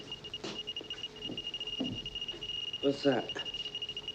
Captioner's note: electronic beeping; beeping intensifies